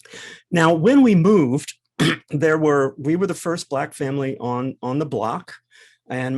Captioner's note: cough